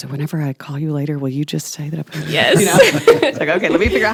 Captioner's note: laughing